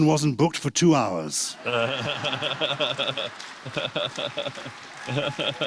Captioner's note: laughter; applause